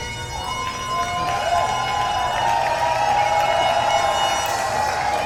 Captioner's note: applause